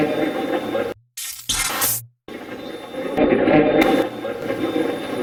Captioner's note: electronic effect